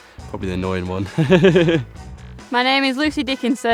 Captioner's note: laughs